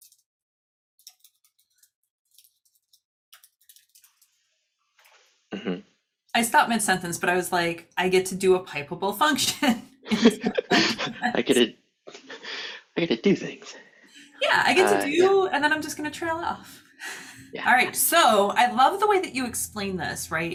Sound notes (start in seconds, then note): 10.0 chuckling